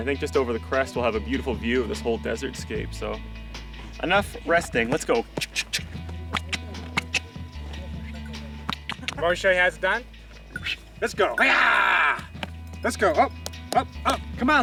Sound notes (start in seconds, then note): 5.7 clicking